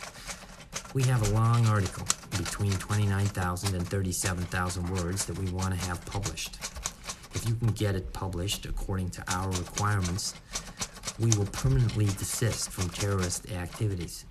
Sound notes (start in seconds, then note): none